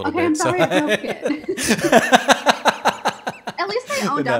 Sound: laughing

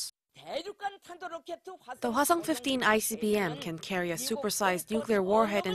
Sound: Korean

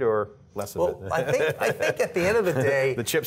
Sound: laughter

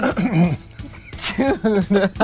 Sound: clears throat; laughing

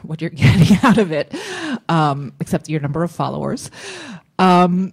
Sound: laughs

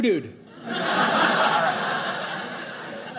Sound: audience laughing

